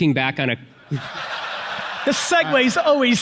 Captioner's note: audience laughs